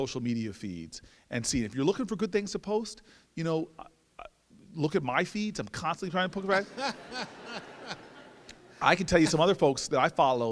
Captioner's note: laughter